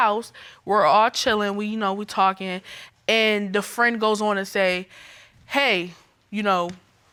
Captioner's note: none